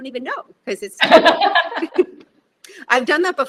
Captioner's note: both laughing